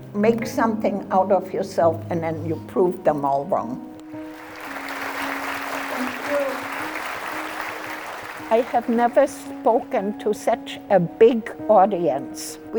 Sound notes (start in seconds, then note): 4.2 applause